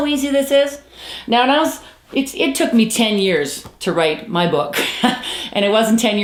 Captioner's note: chuckles